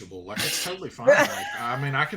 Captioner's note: chuckles